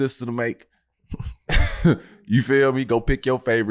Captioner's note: chuckles